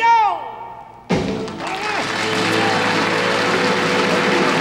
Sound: audience applauds

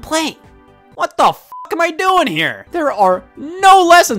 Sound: beep

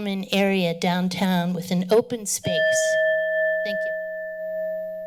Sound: alarm ringing

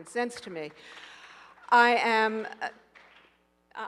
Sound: audience applauding

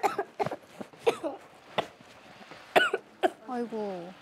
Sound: coughing

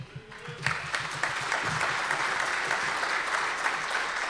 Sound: audience applause

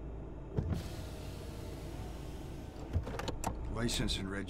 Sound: knocking; window opening

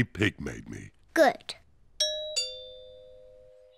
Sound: doorbell rings

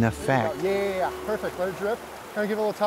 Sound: fishermen talking

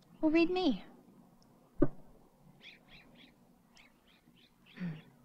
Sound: birds softly chirping

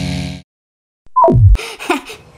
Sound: beep

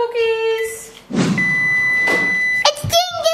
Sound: oven rings

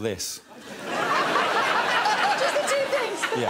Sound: laughter

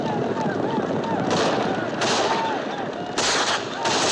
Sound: gunfire

